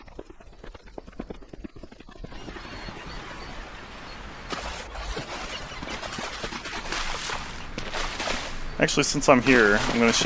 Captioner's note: running noises